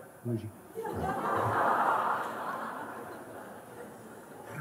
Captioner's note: Lachen